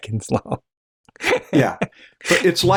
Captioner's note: laughter